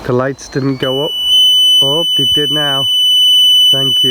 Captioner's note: beeping